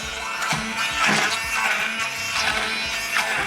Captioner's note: blender whirring